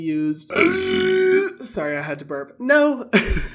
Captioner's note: burps